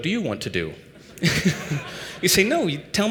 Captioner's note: laughter